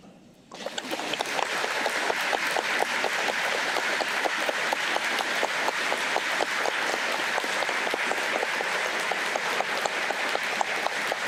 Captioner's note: applause